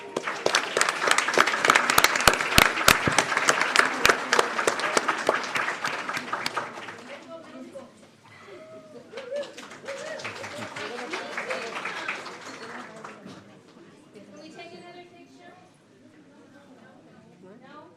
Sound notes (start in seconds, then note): 2.9 clears throat; 7.8 laughter; 11.1 applause